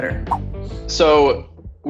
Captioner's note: air whooshing